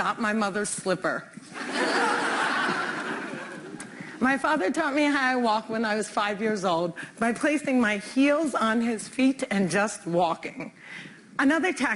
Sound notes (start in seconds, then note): 1.5 laughter